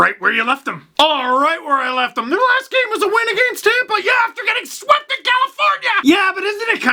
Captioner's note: scream